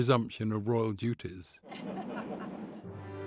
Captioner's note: laughing